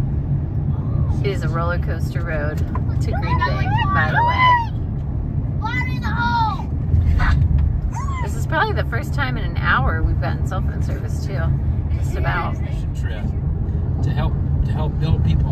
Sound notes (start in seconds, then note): 3.1 kids yelling "whoo-hoo!" "Fire in the Hole!"